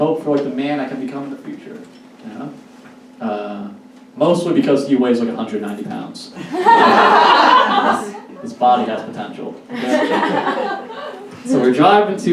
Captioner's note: audience Laughs